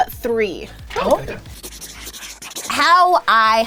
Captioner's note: pencil scribbling